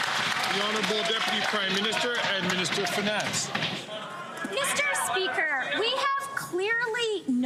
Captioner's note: some Applause